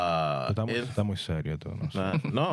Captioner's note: speaking In Foreign Language